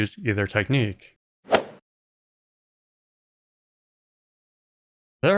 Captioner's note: golf ball hit sound